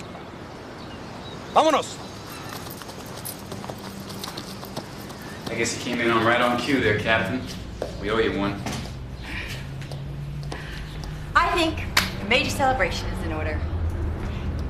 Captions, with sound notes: - Vamonos! - I guess you came in right on cue there, captain. We owe you one. (laughs) - I think a major celebration is in order.